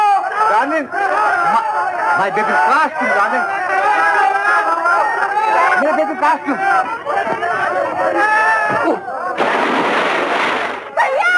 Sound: confused shouts and exclamations

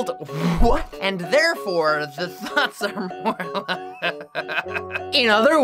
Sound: laughing

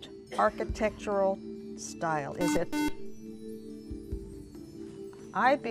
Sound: buzzer

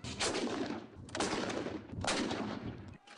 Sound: bang!!; bang!!

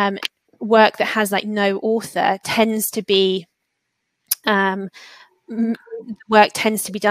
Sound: erm

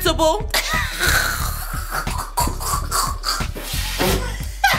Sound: mom laughs

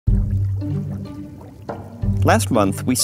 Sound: water bubbling

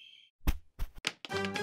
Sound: tapping feet

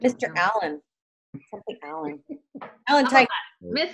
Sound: chuckling

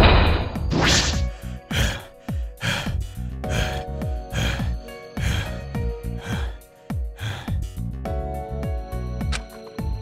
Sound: panting

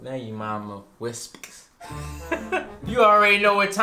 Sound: laughs

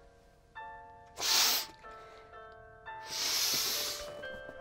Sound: sniffs

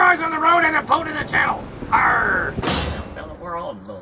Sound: banging

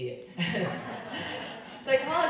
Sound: crowd laughing

